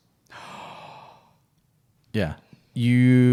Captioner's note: gasping